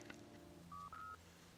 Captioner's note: beeping